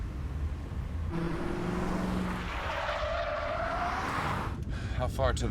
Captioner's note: tires screeching